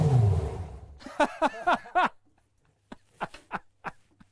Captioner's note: laughing